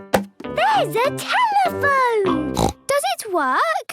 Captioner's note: snorts